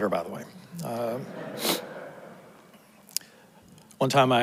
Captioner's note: audience laughs